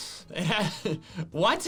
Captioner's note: laughing